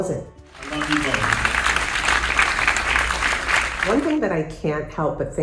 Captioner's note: audience clapping